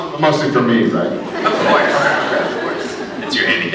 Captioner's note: laughs